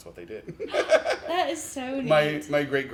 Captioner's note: laughs